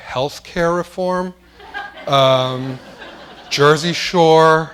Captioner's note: laughter